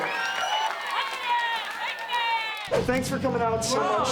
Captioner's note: audience cheering; fanatic muttering